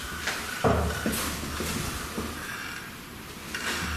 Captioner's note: knocking